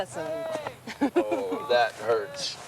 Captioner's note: laughing